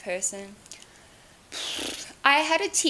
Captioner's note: blows her lips